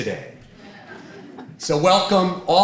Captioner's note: audience laughing